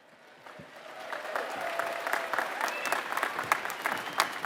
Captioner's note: applause